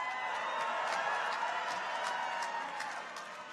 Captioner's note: people cheer